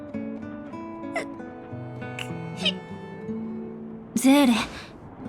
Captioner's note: sob